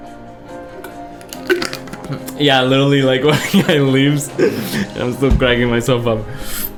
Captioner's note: gulps; laughs